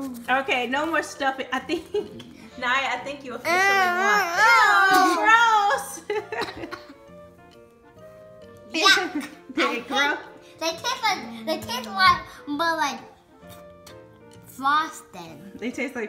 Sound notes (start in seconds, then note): 5.3 voiceover; 7.8 laughs; 15.9 voiceover